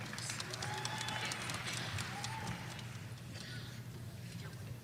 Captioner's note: audience applauding